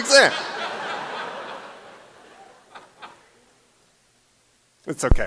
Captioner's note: laughter